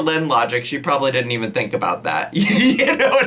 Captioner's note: laughing